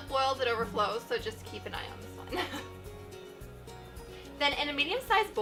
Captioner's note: laughs